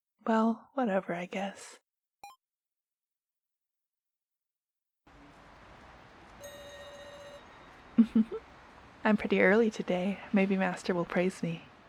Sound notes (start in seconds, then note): 8.0 giggles